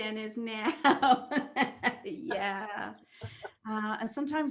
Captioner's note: laugh